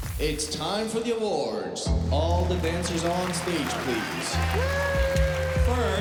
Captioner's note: cheering and applause